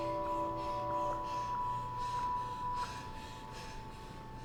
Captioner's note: breathing heavily